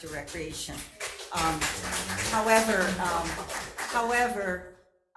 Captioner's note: audience applauding